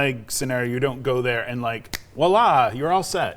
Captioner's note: clicks fingers